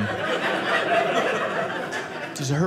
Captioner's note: audience laughing